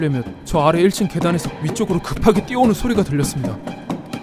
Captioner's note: and the sound of someone running up the stairs from the first floor